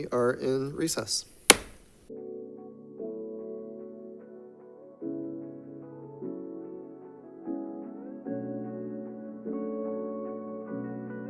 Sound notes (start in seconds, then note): 1.4 gavel banging; 2.0 peaceful music